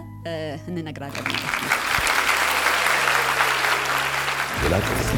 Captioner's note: applause